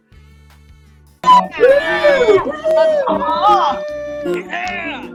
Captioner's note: all cheering